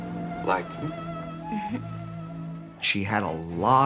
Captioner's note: laughs